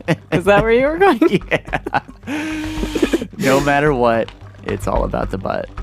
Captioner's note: laughs